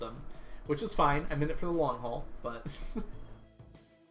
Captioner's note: laughs